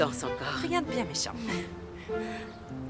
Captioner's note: chuckling